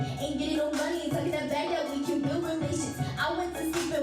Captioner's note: all speaking in foreign language